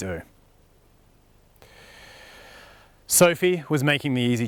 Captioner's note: deep breath